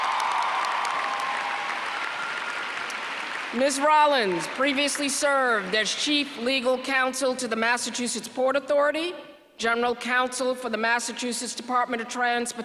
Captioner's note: applause